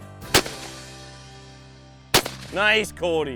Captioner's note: gunfire shot; voiceover